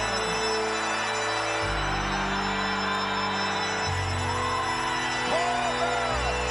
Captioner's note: crowd cheers